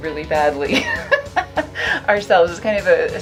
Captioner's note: laughs